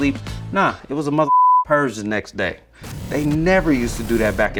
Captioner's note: beep